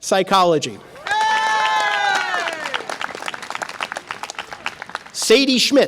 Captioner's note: audience applause and cheer